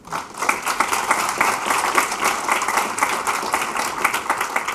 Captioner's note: applause